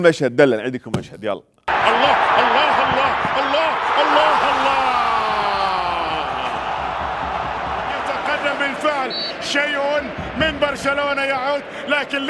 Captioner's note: sports commentator commenting on a football match